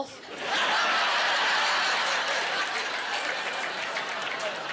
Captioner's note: laughing